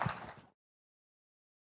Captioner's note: applause